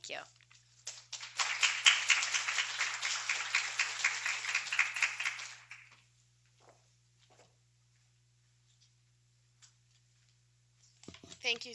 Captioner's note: applause